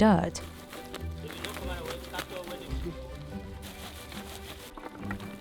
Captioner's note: fruits sifting